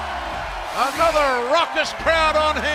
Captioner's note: cheers and applause